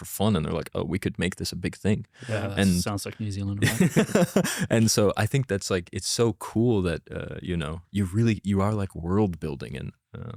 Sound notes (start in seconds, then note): 3.6 laughs